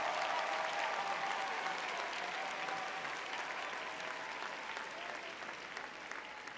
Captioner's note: audience cheering